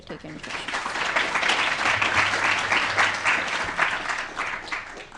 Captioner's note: applause